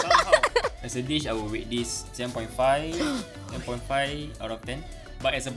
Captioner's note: gasps